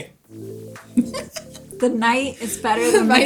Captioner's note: laughs